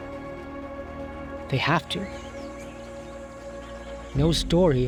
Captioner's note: birds chirping